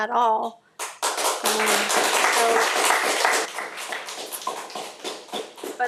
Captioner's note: audience applauding